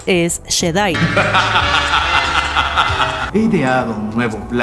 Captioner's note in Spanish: Ríe